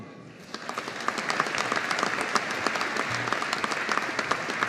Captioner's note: audience applauding